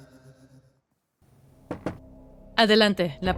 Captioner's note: knocking at the door